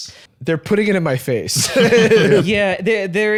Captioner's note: laughs